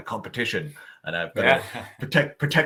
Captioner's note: laughing